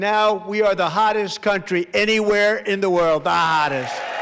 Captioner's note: applause